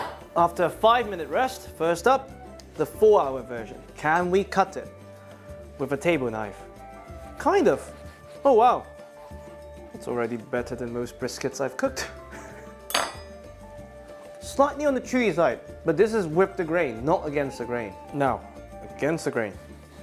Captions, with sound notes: After a five minute rest, first up, the four-hour version. Can we cut it with a table knife? Kind of. Oh wow! It's already better than most briskets I've cooked. [chuckles] Slightly on the chewy side, but this is with the grain, not against the grain. Now, against the grain.